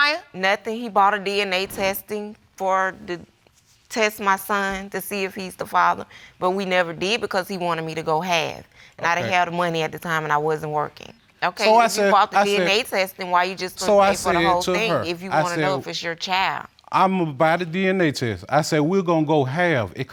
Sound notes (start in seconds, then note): none